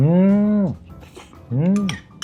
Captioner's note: slurp